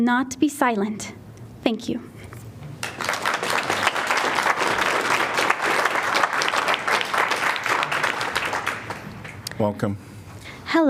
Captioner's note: applause